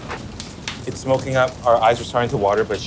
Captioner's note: fire crackling